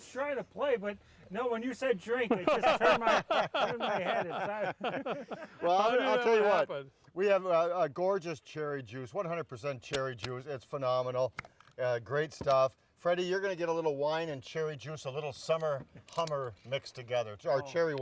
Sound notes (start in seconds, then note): 0.1 laughs; 2.2 laugh; 10.5 taps bottle; 12.8 lid pops